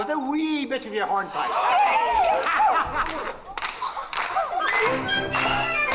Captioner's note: chorus cheers and begins to clap; upbeat music plays